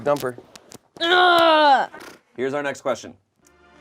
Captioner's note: groans